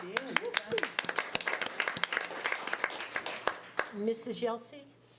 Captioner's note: audience applause